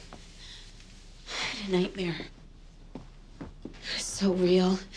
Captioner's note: sighs